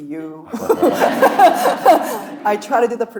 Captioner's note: laughing; audience laughing